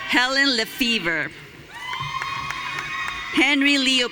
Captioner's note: audience cheering